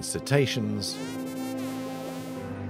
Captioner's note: porpoise whistles